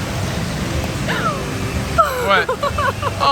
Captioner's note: gasps; laughs